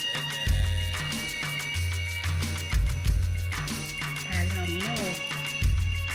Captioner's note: speaking in foreign language